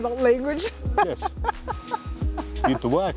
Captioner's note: laughs